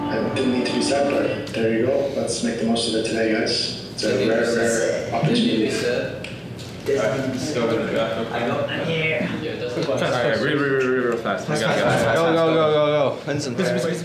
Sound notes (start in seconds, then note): 6.9 crowd speaking